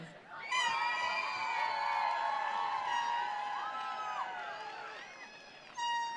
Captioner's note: attendees cheering; attendees applauding